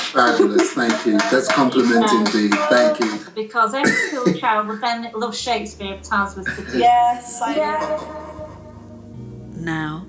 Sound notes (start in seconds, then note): 3.5 conversation echoes and fades out